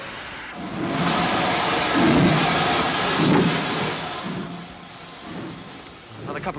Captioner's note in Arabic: صافرة القطار; صوت محرك القطار